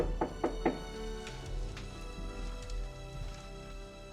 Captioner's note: door knocking